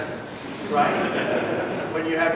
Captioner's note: laughter